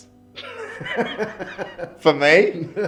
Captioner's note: laughs